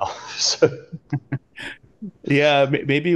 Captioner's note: laughs